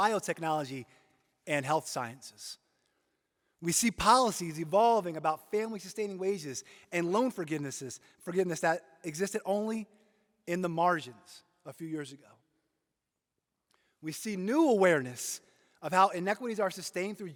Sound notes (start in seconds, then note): none